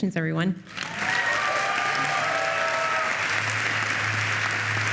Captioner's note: applause